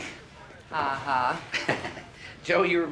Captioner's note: chuckles